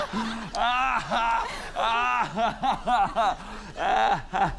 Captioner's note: continues laughing